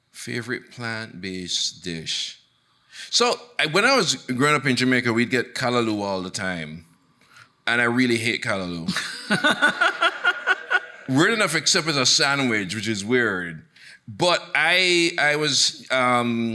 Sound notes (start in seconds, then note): 8.9 laughing; 9.0 audience laughing